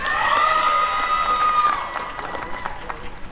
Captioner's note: applause and cheering